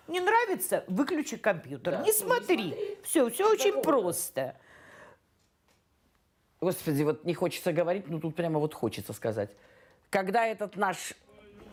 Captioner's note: speaking russian